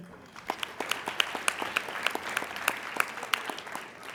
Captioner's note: applauding